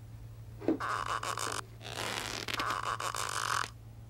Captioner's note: creaking